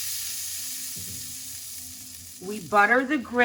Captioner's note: butter sizzles